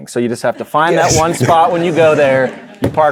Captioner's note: audience laughing